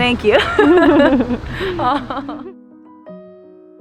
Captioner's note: both laugh